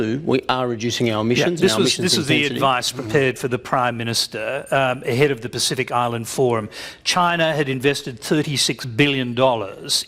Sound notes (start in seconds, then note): none